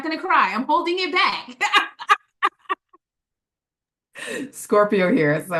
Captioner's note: laughing